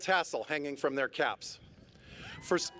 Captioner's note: cheers